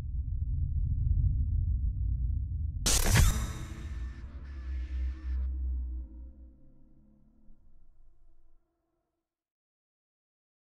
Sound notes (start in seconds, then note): 2.9 static